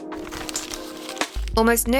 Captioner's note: scrunching paper sound